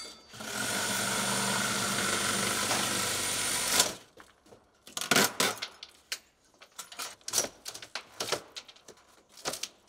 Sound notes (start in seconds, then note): 0.1 saw whirring; 5.0 wood creaking